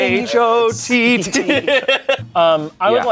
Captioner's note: everyone laughs